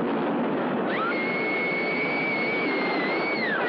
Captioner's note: screaming